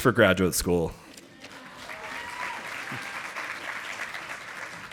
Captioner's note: audience applauding